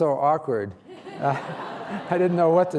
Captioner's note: laughter